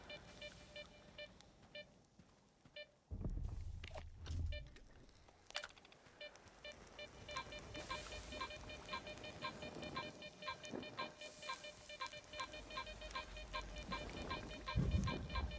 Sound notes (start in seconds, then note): 4.0 beeping